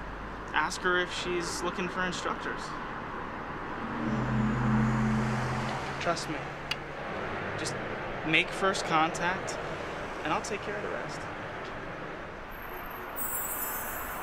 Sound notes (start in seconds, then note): 3.8 glow sound effect